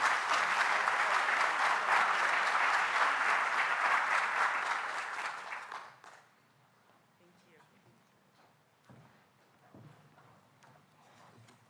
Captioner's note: applause